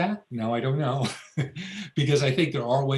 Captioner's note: laughs